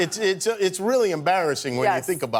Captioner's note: laughter